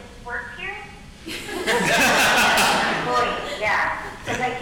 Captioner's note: audience laughing